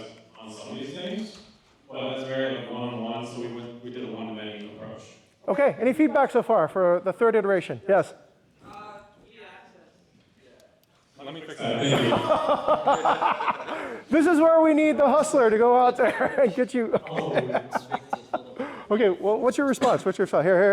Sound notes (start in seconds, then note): 11.6 laughter; 17.4 laughs